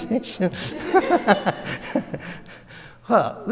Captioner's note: audience laughs; laughs